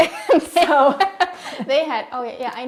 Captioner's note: laughing